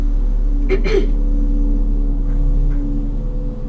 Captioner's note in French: Tousse